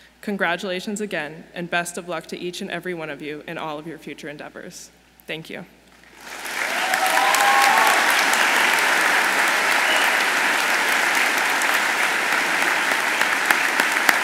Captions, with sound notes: Congratulations again, and best of luck to each and every one of you in all of your future endeavors. Thank you. (audience applauds)